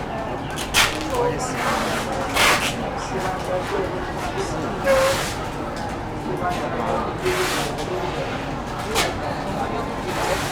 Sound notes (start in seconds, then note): 1.0 speaking in Mandarin